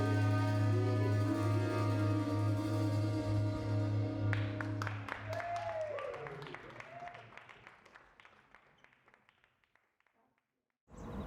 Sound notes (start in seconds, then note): 0.0 band playing; 4.1 audience applauding